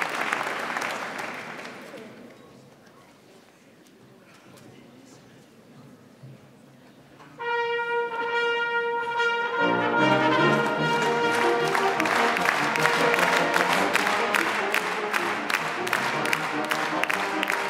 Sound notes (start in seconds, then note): 7.4 trumpet music; 8.5 symphonic clapping